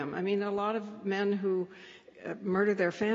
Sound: none

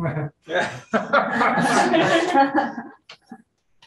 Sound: room laughs

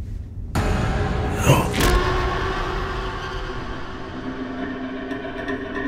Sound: suspenseful music; blow thuds; moves into ominous music

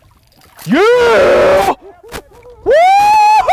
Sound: yelling

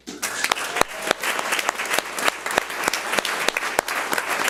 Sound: audience applauds

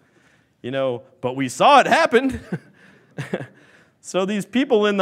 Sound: laughs

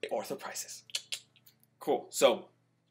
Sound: clicks tongue

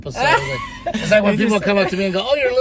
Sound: laughing

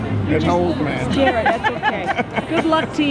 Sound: laugh

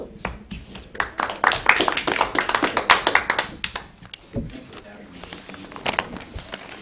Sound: applause

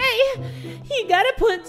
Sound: inhale

